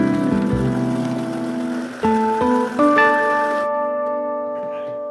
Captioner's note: vitamix sound effects